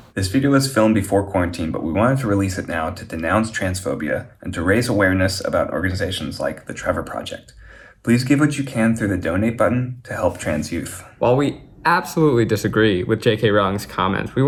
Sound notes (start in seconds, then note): none